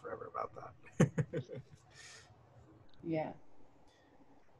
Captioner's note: laughter